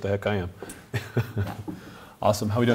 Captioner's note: host laughs